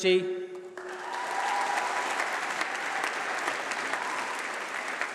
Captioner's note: applause